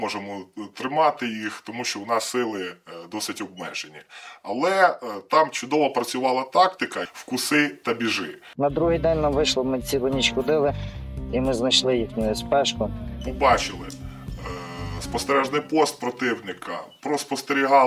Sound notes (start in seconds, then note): none